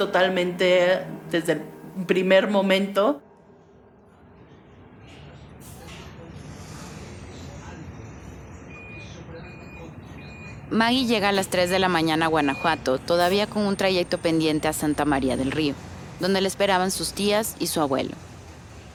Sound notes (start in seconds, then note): 4.5 bus/station sound